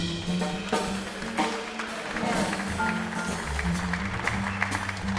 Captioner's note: audience applauds; sweet low jazz music